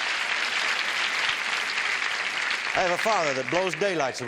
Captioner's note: applause